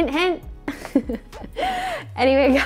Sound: giggles

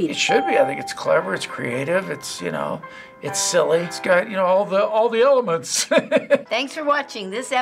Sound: chuckles

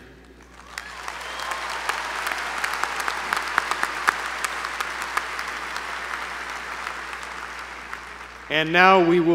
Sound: applause

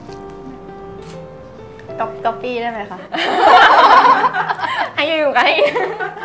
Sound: laughing

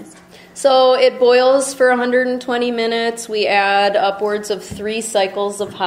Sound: voiceover

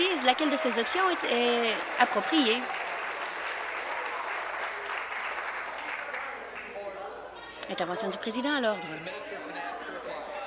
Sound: applause

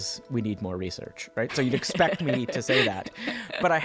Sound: laughing

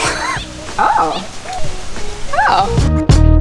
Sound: laughs

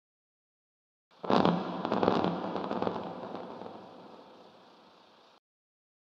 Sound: sound of deep fizzle

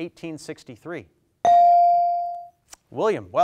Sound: bell dings

